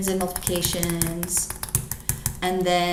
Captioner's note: keyboard clicks